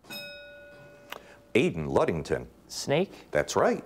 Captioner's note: bell rings